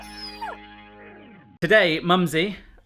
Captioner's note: dog barking; dog whimpering